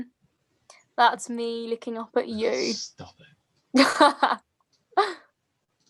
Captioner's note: laughing